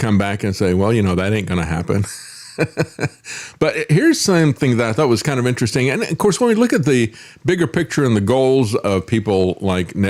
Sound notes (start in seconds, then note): 2.1 laughs